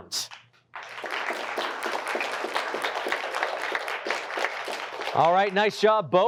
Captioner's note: applause